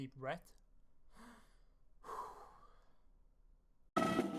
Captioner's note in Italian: respiro profondo